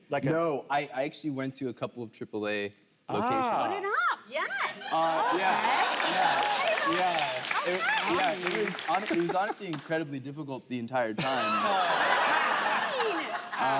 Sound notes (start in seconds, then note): 4.9 audience applauding; 11.2 audience laughing